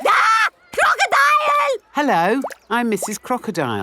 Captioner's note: screams